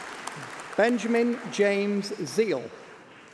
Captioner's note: applause